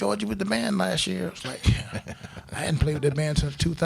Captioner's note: crowd laughing